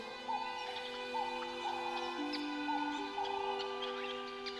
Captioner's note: bird singing